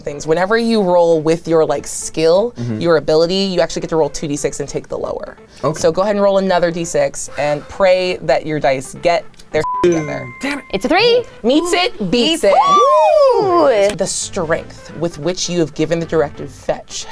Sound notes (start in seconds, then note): 9.6 beep; 9.6 bell dings; 13.0 wooing